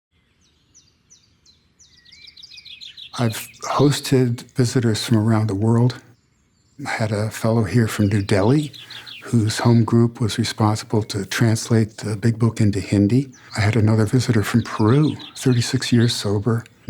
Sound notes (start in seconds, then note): 0.0 birds tweeting